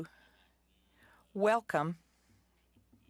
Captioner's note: speaking French